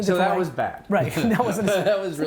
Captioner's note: laughing